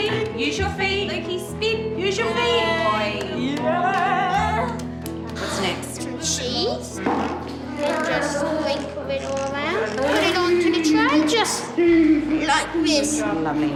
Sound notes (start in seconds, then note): 5.4 grunts